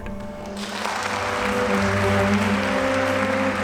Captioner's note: applauding